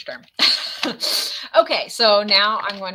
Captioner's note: laughs